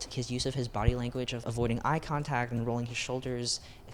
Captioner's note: none